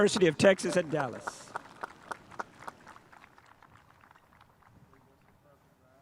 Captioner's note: spectators applauding